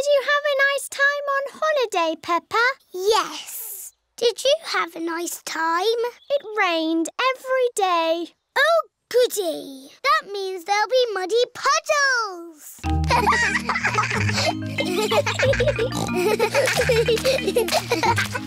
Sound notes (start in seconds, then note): 13.0 giggling; 15.7 peppa snorts